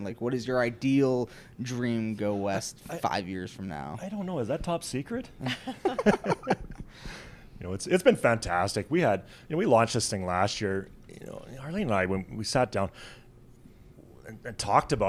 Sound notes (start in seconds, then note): 5.4 laughs